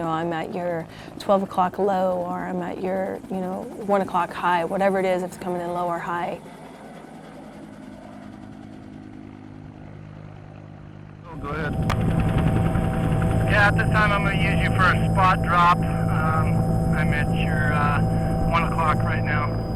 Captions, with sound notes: I'm at your 12 o'clock low, or I'm at your, you know, 1 o'clock high, whatever it is, it's coming in low or high. [helicopter] [radio traffic]